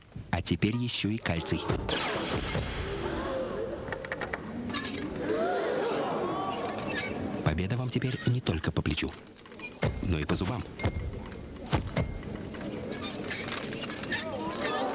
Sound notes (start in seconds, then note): 3.2 cries of admiration; 3.7 creak; 12.9 ceremonial music; 12.9 creak